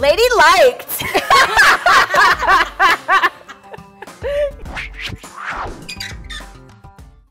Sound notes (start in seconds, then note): 1.1 laughing loudly